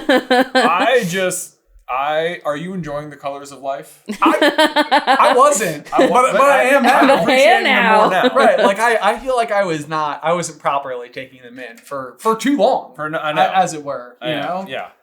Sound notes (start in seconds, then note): 0.0 chuckling; 4.1 laughing